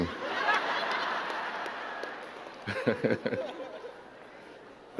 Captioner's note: crowd giggling; giggles